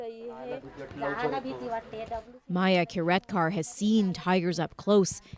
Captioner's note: speaking Foreign Language